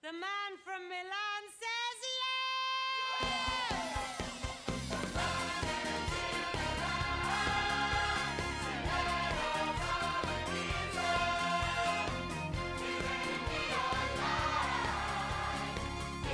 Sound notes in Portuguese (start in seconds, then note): 3.1 workers cheering